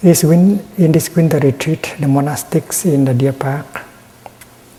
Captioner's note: none